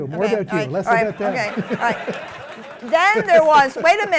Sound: laughter; applause

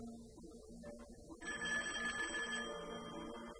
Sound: phone rings

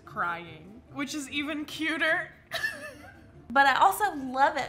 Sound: laughs

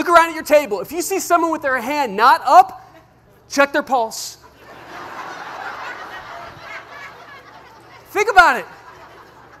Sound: laugher

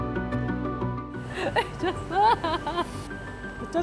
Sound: laughs

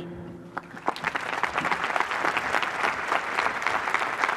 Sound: applause

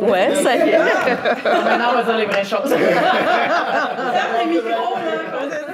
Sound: laughs

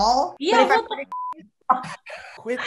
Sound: beep

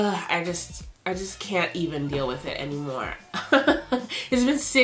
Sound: laughs

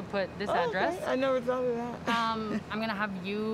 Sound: chuckles

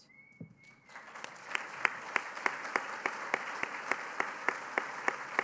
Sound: applause

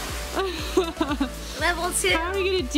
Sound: laughs

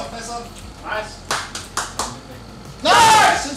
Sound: happy claps

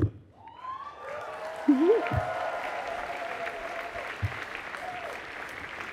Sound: applause

